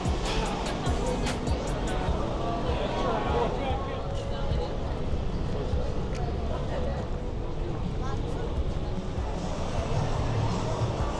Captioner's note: crowd chattering